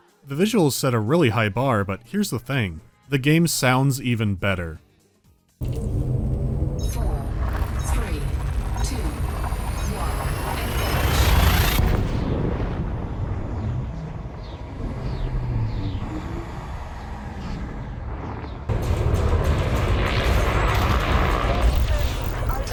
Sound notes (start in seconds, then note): 5.5 rising humming; 11.5 sharp dive into muted hum